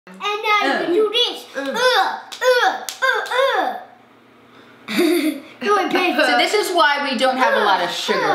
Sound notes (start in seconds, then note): 2.3 grunting and slapping; 4.9 laughs